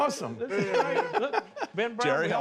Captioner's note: laughter